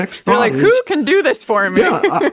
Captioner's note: laughs